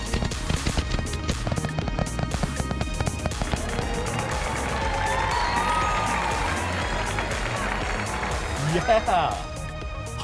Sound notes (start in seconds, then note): 0.0 fireworks popping; 0.0 light upbeat music; 3.4 visitors cheers and applauds